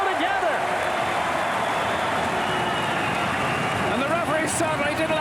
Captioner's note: applause